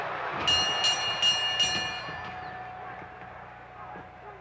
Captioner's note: bell ringing